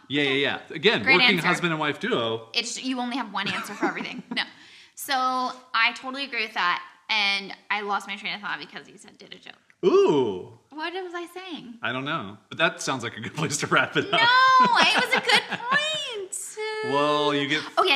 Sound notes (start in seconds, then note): 3.4 laughs; 13.1 laughs